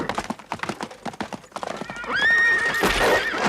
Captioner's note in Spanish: rocinante relincha